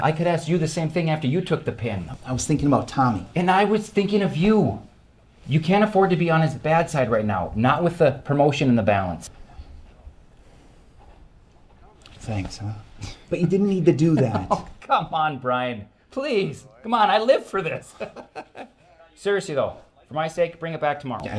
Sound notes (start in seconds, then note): 18.6 laugh